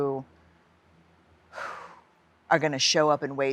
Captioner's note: exhales deeply